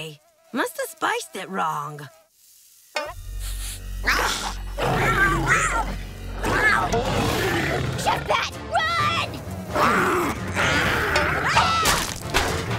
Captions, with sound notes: Must have spiced it wrong. Chef Pat, run! [screaming]